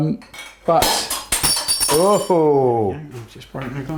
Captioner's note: glass shatters